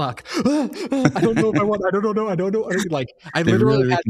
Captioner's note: laughing